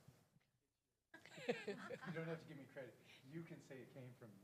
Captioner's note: laugh